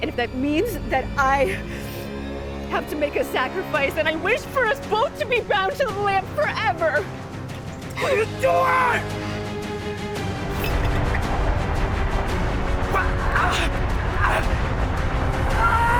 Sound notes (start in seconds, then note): 10.9 lid clatters; 13.2 Jake screams